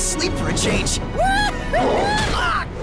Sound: exclaims; groans

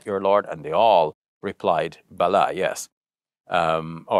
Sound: speaks Arabic

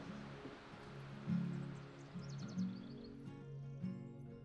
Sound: birds chirping

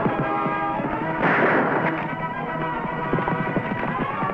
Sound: gun fires

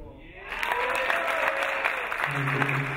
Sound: cheering; applauding

